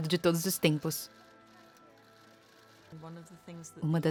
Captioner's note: cameras clicking